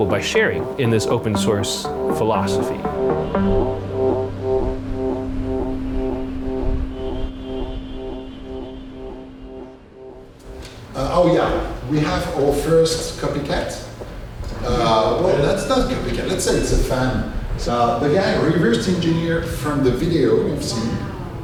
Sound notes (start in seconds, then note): 2.8 horn honking